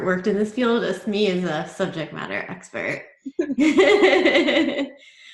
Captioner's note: laughs